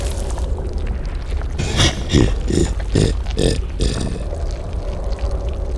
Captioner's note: laughs